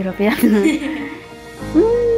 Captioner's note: laughs